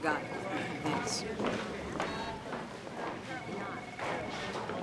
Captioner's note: none